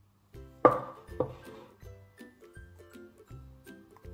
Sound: kitchen sound

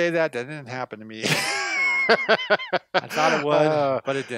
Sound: laughs

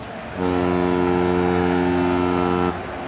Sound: ship horn blaring

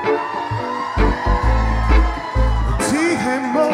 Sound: cheering

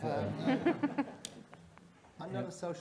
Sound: audience laughing

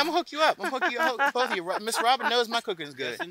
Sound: laughs

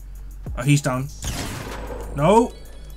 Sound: sniper firing

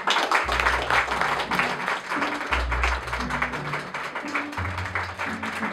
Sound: applause

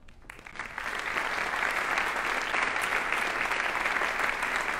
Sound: audience applauding

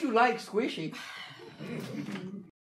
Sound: sighing; audience laughing

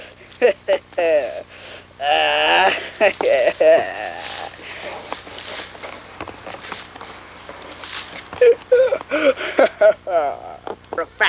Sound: deranged laughter

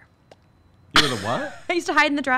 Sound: chuckling

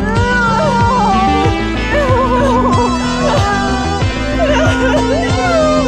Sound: both crying

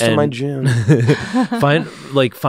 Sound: laughing

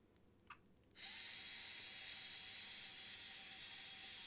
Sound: motor whirring

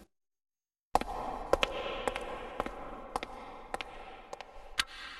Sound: echoing footsteps

